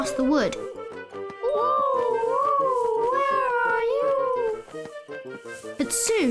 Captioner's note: owls hooting